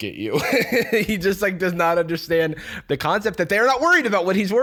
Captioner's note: laughs